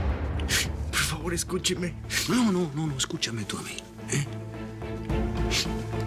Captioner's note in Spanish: Sollozos